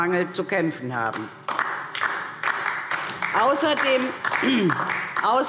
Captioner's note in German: Beifall DIE LINKE